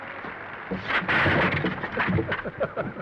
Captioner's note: chair clattering; Danny laughs